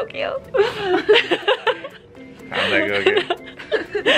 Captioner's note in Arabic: يضحك